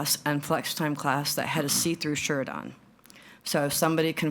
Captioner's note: none